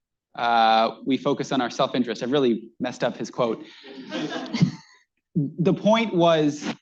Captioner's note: laughter